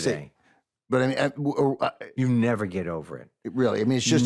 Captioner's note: stutters